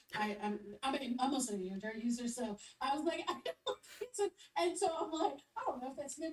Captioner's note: laughs